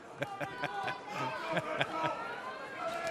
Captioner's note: laughter